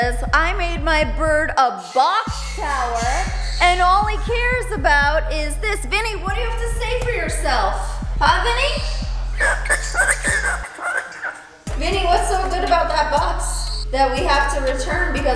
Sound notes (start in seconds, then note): 8.4 bird squawking